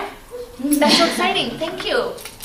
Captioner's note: laughing